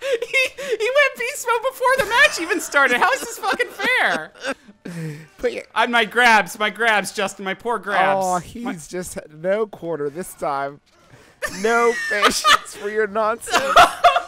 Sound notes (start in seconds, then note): 0.0 both laughing hysterically; 3.4 chortling; 5.3 choking up; 13.4 laughing; 13.5 chuckling